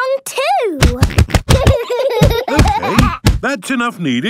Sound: banging

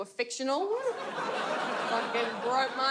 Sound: audience laughs

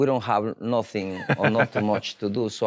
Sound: laughs

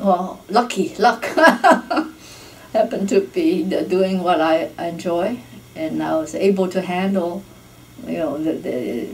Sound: laughs

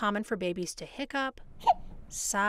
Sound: hiccups

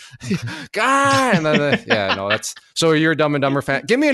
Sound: laughs

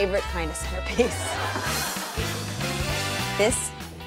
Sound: laughter

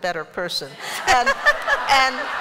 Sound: laughter

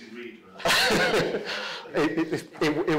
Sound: laughs

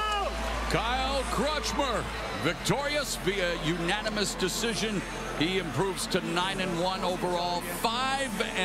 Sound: applause

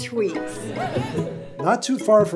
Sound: audience cheers

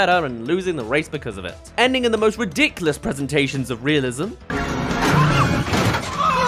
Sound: explosion

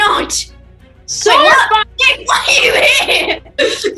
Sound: laughs

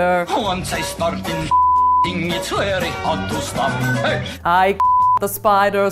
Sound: beep

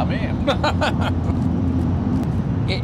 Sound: laughs

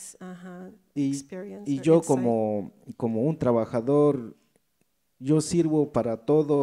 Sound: speaks in foreign language

